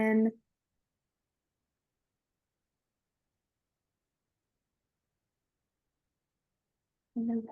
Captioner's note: silence